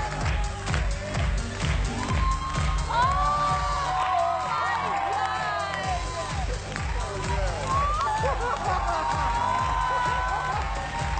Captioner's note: cheers and applause